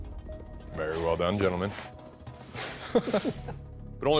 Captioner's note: laughter